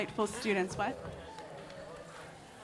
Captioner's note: silence